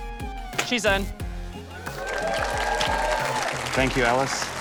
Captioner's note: cheering, applause